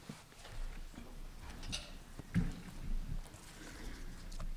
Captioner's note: chairs scuffling